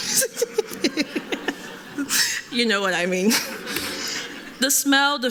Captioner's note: laughs